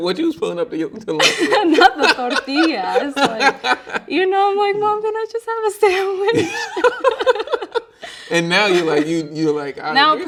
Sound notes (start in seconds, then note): 1.2 laughing; 6.0 both laughing